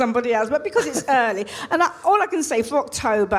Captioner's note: laughs